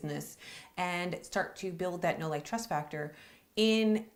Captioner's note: mutters